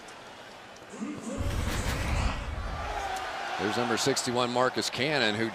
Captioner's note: pa announcement